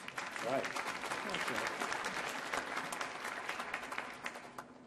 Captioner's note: audience applauding